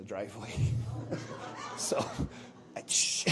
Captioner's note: laughter